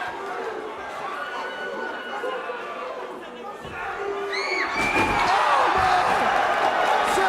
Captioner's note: crowd chatter